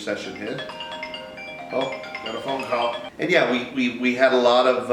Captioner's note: phone chimes ring